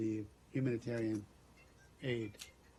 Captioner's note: cell phone rings